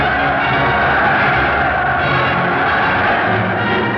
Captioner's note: loud cheering